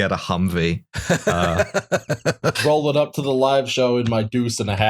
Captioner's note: laughter